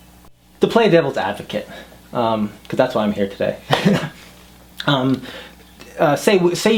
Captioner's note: both laugh